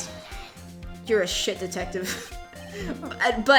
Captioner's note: laughs